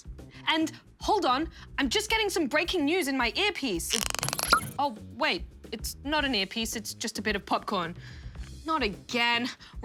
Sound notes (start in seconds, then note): 3.9 pop!